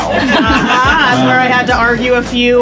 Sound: riders laugh

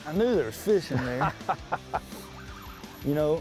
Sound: laughing

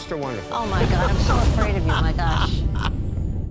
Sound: laughter

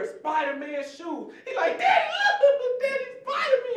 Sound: giggling

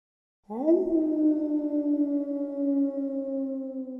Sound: dog howling

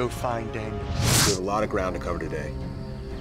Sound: air whooshing

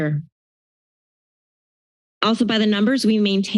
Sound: silence

